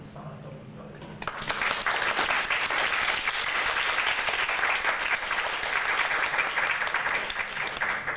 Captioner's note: audience applauds